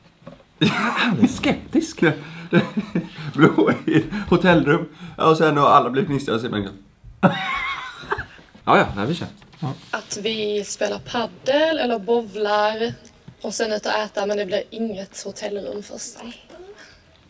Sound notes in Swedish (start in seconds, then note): 2.1 skrattar; 7.2 skratt